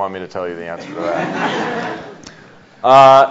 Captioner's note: audience laughs